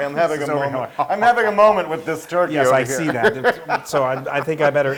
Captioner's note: laugh